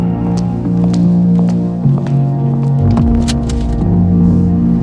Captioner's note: footsteps clopping